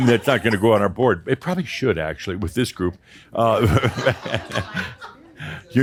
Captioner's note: Adamus chuckles